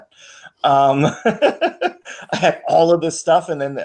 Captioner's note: laughs